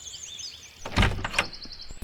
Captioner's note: door opens